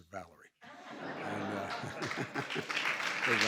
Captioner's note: laughs; laughter and applause